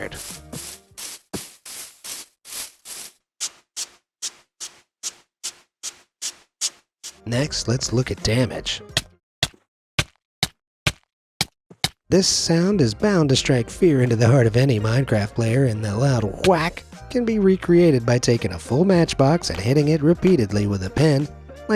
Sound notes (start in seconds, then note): 0.0 footsteps squelches; 3.2 toothbrush scratches; 9.4 game thuds